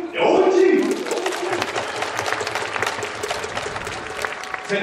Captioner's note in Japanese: 拍手